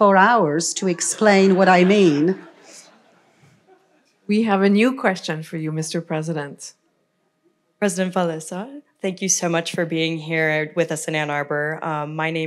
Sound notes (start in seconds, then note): 0.9 laughter